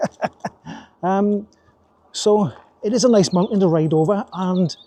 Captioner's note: laughs